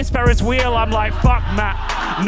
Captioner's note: audience laughing